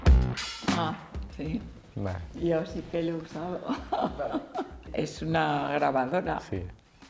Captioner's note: laughs